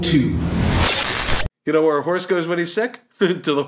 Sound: static

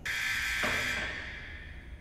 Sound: buzz

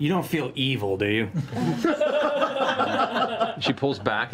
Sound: laughter

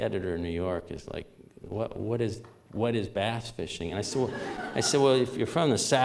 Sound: laughter

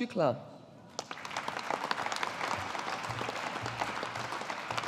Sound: audience applauding

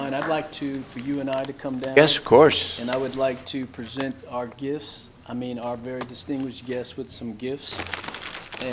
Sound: applause

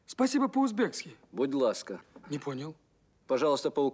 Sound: speaks in Ukrainian

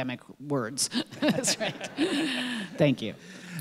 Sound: audience laughing

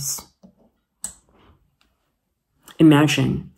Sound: light switch clicking

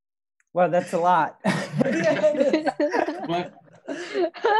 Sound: all laughing

